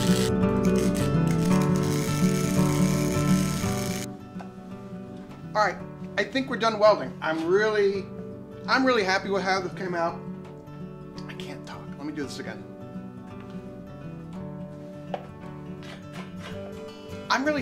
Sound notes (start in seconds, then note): 0.0 welding; 13.7 upbeat acoustic music